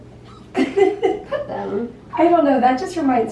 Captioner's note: laughter